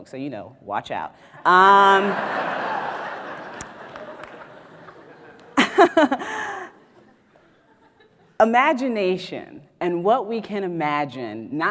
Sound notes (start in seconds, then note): 1.4 audience laughs; 5.3 laughs